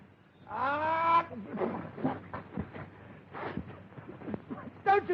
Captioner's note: sneezing and spluttering on-screen